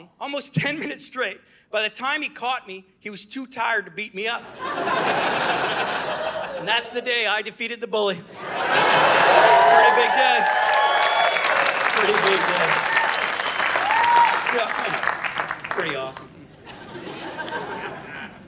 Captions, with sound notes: almost ten minutes straight. By the time he caught me, he was too tired to beat me up. (Audience laughing) And that's the day I defeated the bully. (Audience cheering) Pretty big day. (Audience cheering) Pretty big day. (Audience cheering) Yeah, I know, pretty awesome. (Audience laughing)